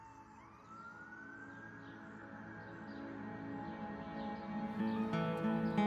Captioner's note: soft somber music; birds chirping; melancholic music